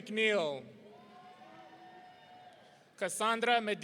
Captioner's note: audience cheering